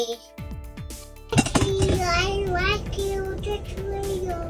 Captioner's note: item clattering